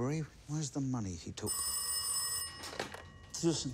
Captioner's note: phone rings